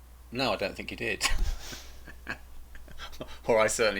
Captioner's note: laughing